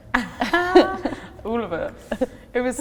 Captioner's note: both laughing